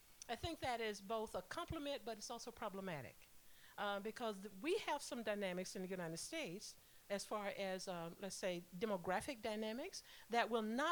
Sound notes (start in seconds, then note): none